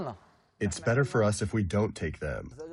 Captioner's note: through translator